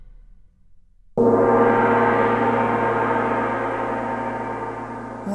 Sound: gong ringing loudly

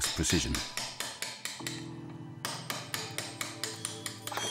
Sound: chisel clinking

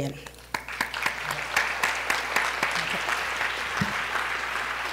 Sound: applause

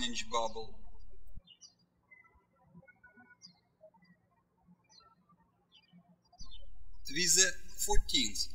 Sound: birds chirping

